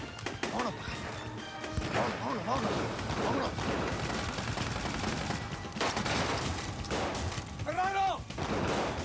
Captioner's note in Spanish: tiroteo